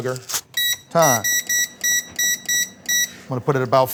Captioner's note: machine beeps